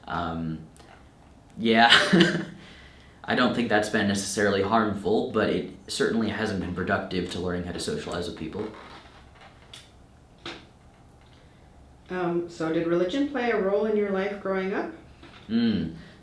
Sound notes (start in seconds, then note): 2.2 laughing